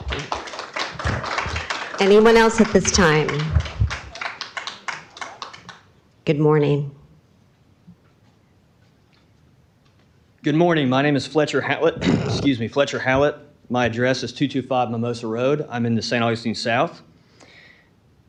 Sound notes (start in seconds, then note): 3.4 applause